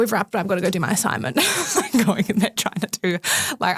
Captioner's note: laughs